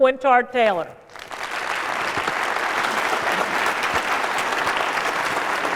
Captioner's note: applause